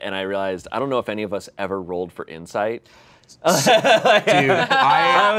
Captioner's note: laughs